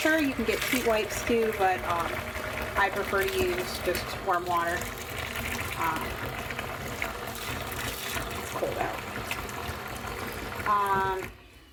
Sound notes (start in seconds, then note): 5.3 water pouring